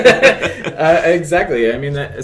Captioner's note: laughter